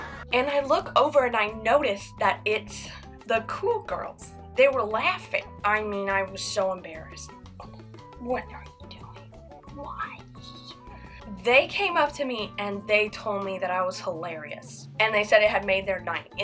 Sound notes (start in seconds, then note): 7.6 whispering